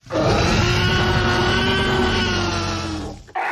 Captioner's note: dinosaur roar